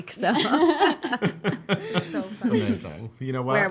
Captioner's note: laughing